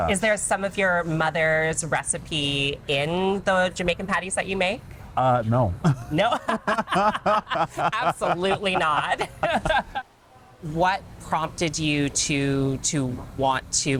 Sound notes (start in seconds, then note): 5.9 laughs; 9.0 both laughing